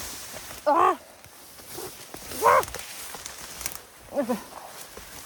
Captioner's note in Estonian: hädaldamis hääled